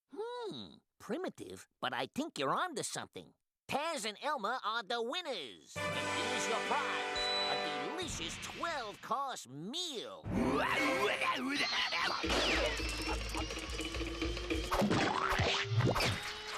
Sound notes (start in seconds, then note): 10.4 exclaiming